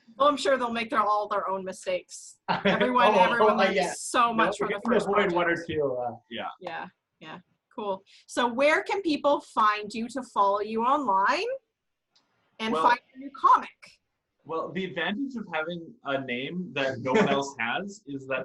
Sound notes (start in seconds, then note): 2.5 laughs